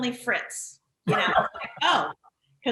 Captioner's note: laughing